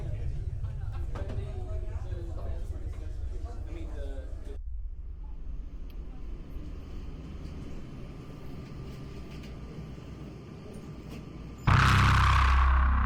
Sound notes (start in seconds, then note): 0.1 restaurant sounds; 6.3 footsteps